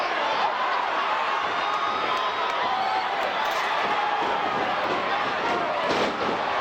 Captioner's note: crowd chattering; stage clattering